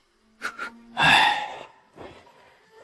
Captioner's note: sigh